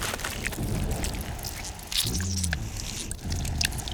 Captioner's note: flesh squelching; blood dripping